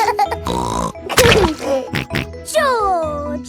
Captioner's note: laughs and snorts